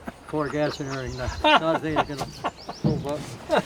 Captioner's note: laughing